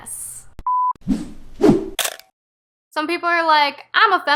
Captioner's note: beep swoosh swish crunch